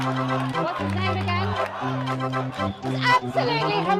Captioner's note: crowd Chants "You go home!"